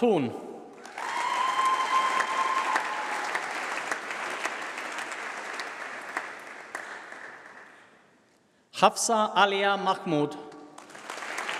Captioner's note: applause